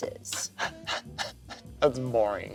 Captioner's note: laughs